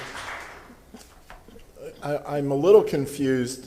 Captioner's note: applause